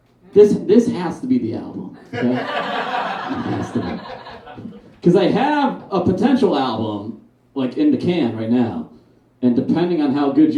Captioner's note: audience Laughs